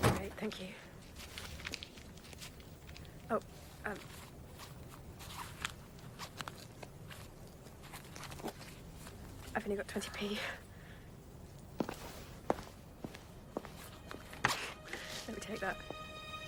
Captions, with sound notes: - Great. Thank you. Oh... (wallet unzips) I've only got 20 P. (angry footsteps withdraw) Let me take that.